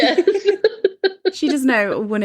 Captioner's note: laughs